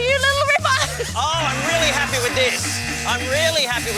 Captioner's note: buzzer sounds multiple times